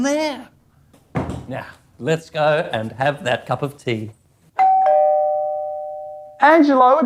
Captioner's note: doorbell rings